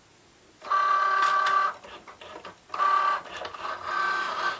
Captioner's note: machine whirring